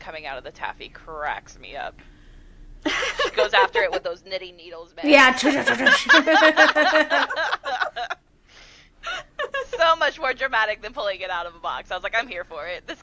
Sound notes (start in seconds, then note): 2.8 laughter; 6.2 makes sound effects; 8.6 laughter